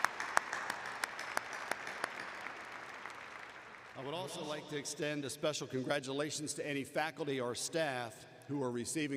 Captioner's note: applause